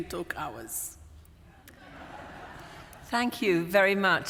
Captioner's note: laughter